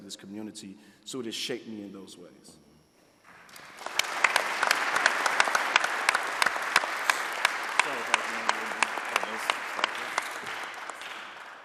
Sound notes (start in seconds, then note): 7.0 audience applauding